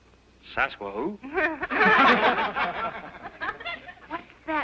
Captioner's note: laughing